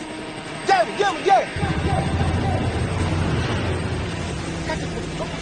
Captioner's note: helicopter humming